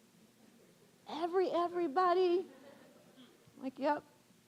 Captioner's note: audience laughing